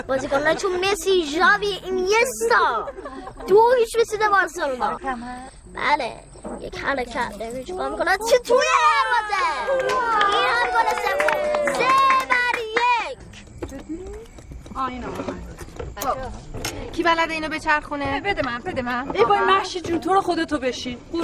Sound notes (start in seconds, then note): 2.7 laughing; 8.6 cheering, clapping